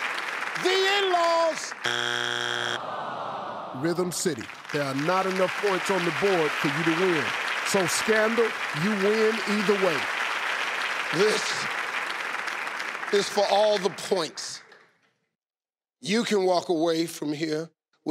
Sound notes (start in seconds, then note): 0.0 audience applauding; 1.8 buzzing; 2.8 audience exclaiming in disappointment and clapping; 10.1 audience clapping